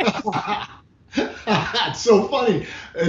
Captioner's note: laughing